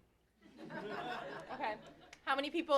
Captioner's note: laughter